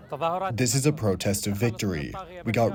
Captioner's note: through translator